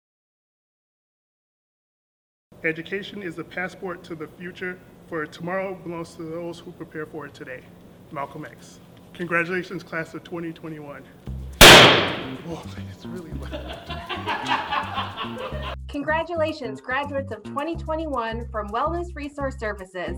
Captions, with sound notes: "Education is the passport to the future, for tomorrow belongs to those who prepare for today." - Malclom X. Congratulations, class of 2021! Oh, it's really loud! (laughing) Congratulations graduates of 2021 from Wellness Resource Services.